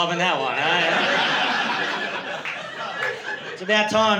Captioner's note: laughter